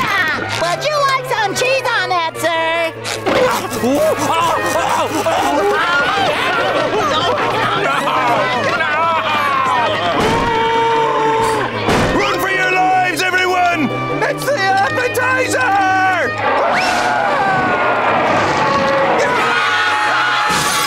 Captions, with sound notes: Please enjoy the food! Would you like some cheese on that, sir? Ow, ow, ow, ow! [panicked screaming] No, no! [screaming] Run for your lives everyone, it's the appetizer! [roaring]